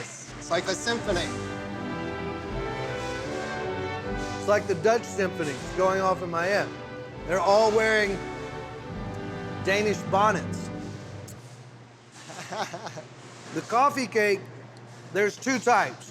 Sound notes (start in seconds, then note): 1.4 orchestra music playing; 12.2 chuckling